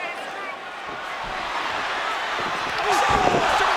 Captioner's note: audience cheering